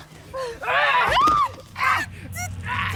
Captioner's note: screaming